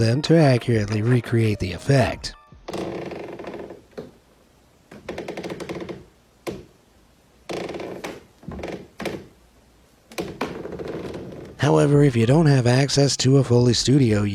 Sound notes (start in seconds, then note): 2.6 floor clicks